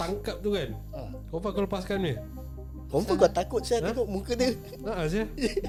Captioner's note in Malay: ketawa